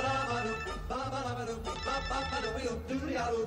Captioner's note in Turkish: Telefon Sesi